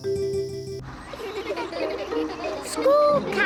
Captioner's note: all giggling